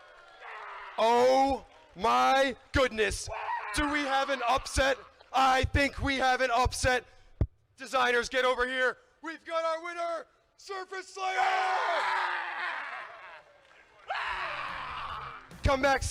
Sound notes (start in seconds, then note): 0.0 crowd cheering and clapping; 3.2 screams; 11.2 screaming